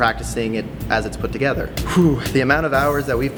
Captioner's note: sigh